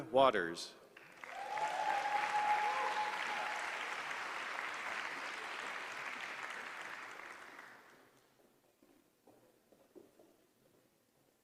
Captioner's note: applause